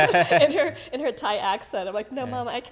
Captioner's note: laughing